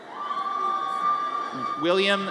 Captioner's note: audience cheers